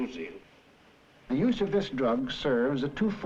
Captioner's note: voiceover